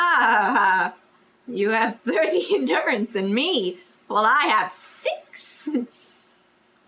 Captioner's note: laughs